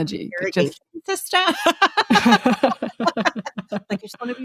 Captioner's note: both laughing